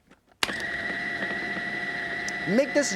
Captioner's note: food processor whirring